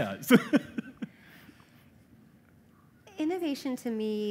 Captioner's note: laughter